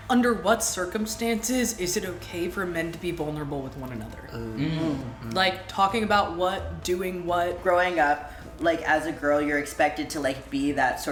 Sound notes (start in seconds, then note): 4.4 noises of agreement